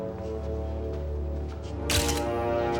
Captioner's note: camera shutter clicking